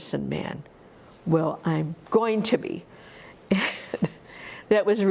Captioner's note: laughs